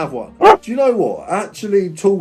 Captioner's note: dog barks